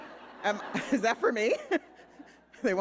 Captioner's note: audience laughing